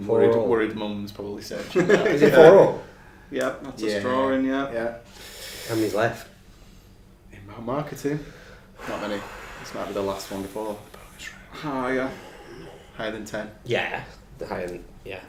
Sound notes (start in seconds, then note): 12.1 whispering